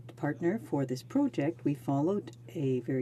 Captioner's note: speaking french